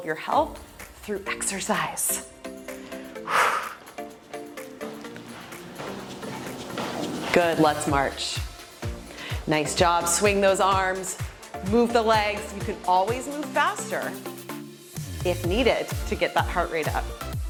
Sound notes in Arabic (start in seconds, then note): 4.7 زفير